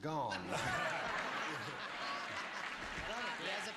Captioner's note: applause